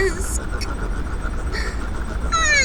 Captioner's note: Ash gasps in "realization"